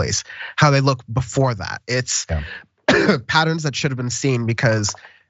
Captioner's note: cough